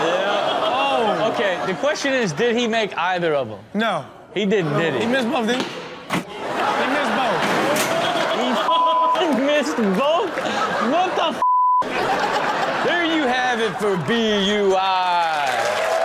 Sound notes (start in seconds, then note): 8.6 beep; 11.4 beep; 15.8 crowd claps and cheers